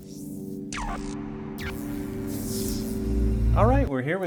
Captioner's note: electrical shock